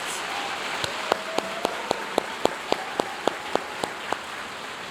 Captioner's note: audience cheering and applauding